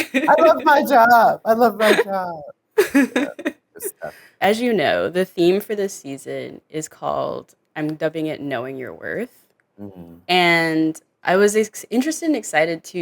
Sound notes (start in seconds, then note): 2.8 laughs